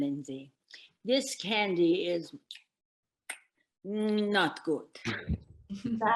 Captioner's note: smacks lips